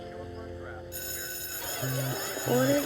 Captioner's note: school bell rings